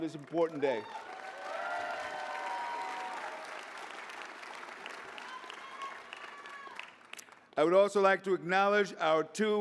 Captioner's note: applause